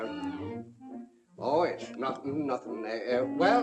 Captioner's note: stammering